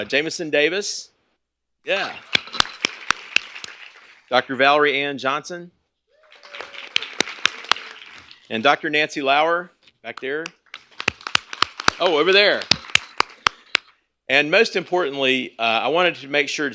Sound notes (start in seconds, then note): 2.1 applause; 6.2 applause; 10.4 applause